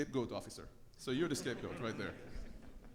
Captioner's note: audience laughs